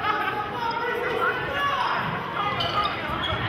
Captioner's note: yelling